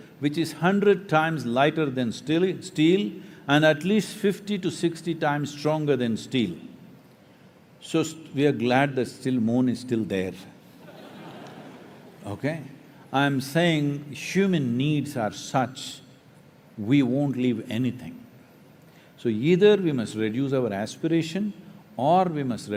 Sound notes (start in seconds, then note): 10.8 laughter